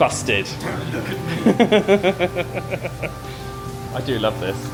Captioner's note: laughs